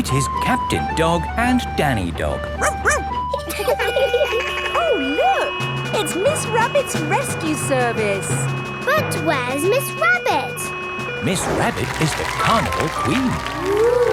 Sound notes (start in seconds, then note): 2.6 barks; 2.6 laughing; 3.7 sirens sounding